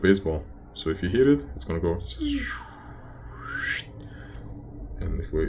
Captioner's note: swooshing